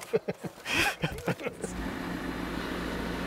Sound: laughs

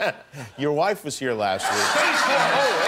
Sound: laughter

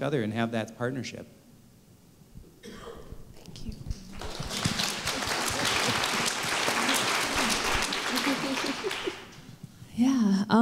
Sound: applause

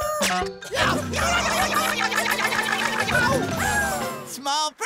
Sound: screaming

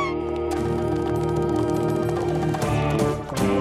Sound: nurse screams

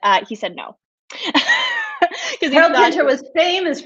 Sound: laughs

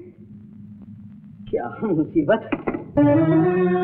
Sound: receiver hang up

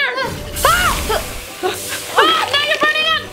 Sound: shouts

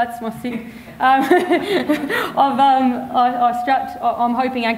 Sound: chuckles

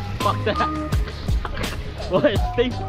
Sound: laughs

